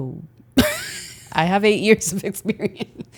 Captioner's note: laughs